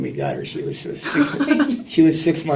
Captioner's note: laughter